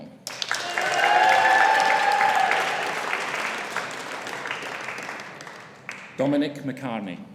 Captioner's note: audience applauding; audience cheering